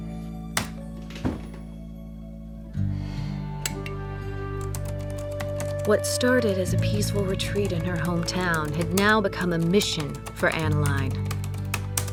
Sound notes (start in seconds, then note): 7.5 typing resumes